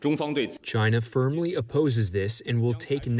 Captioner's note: through translator